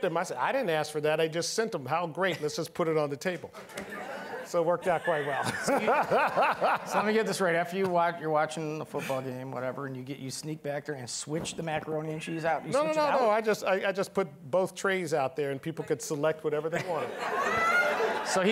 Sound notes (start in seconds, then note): 4.8 laughing; 16.7 all laughing